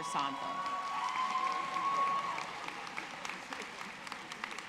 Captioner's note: audience cheering